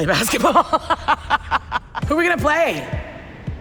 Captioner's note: laughing